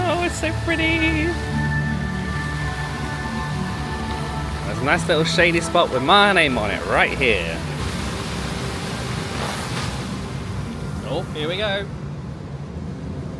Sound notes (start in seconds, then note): 1.6 whimsical music plays; 8.1 water splashes